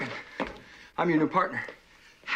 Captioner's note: breathes heavily